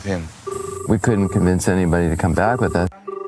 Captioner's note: phone ring